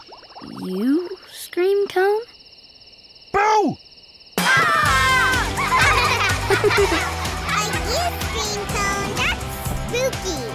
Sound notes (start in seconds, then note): 4.4 screaming; 5.2 laughing